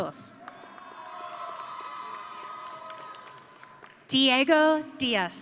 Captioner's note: audience cheering